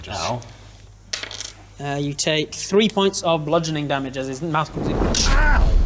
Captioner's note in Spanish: Tirada de dados